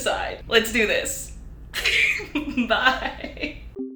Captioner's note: girls laughing